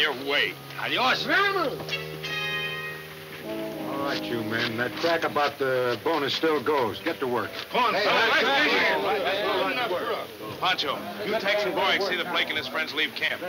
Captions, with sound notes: - Adios! (man shouts) - All right, you men, that crack about the bonus still goes. Get to work. (men shouting) Pancho, you take some boys and see that Blake and his friends leave camp.